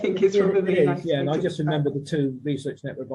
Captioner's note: laughing